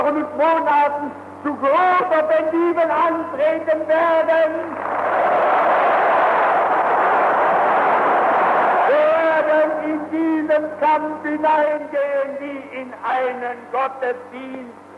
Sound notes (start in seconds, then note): 4.7 applause